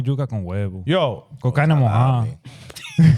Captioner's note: speaking In Foreign Language